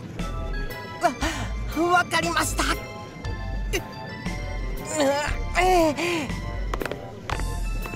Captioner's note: lifting grunt